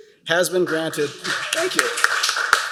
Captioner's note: applause